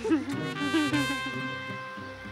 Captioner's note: Laughs